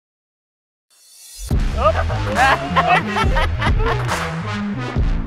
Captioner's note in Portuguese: RIsada